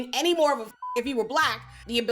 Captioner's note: beep